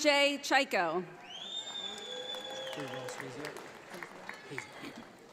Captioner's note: audience applauds